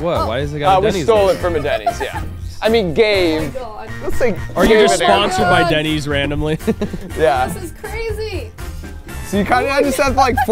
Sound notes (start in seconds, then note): 4.6 laughing; 9.7 laughing